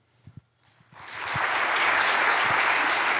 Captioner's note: applause